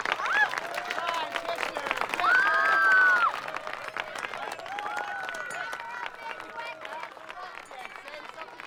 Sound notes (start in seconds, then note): 2.2 screaming